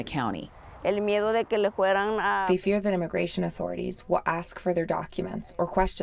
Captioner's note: through translator